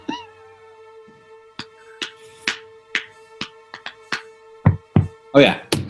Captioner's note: rhythmic tapping; joins in with tapping